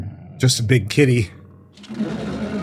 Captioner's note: growling